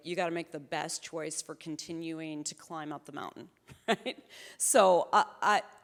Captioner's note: chuckles